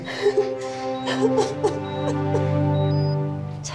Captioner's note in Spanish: Sollozos